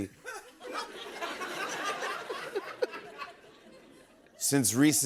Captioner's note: laughter